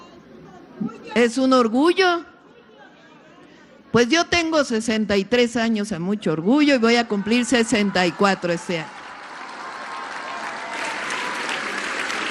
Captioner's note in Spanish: aplausos